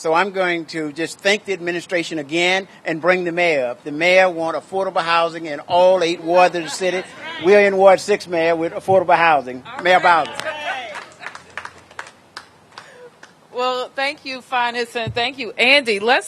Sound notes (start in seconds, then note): 11.7 applause